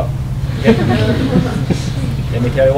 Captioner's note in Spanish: Risas